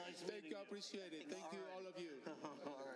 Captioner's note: laughter